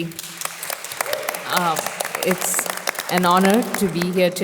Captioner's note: audience applause